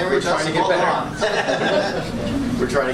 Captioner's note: laughter